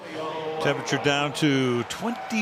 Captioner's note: pa announcement